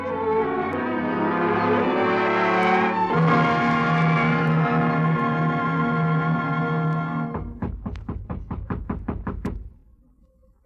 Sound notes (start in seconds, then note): 0.0 dramatic music; 4.4 knocking